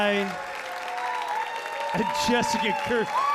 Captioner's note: audience cheering